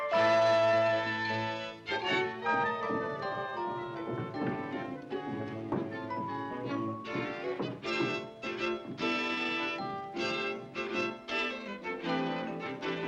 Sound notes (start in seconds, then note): 3.0 eerie suspenseful music; 3.0 footsteps over bridge; 11.3 eerie suspenseful music